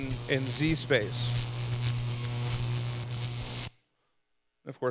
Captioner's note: electricity buzzing